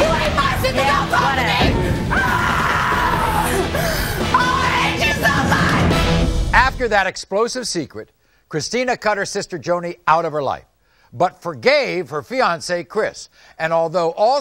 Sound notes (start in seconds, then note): 1.6 screaming